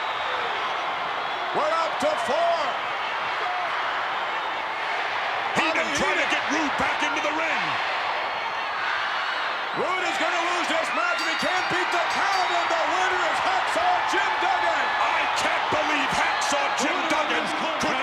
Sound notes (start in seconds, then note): 12.7 bell rings